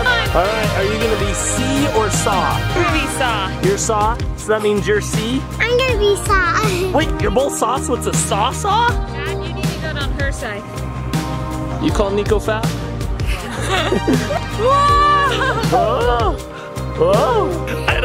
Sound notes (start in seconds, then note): 13.3 laughs